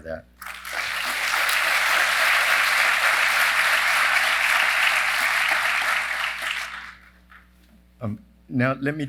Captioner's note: applause